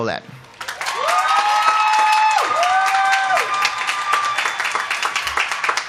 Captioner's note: applause